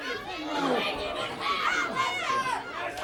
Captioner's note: crowd chatter; crowd cheering; crowd chatter